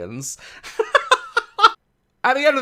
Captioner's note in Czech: smích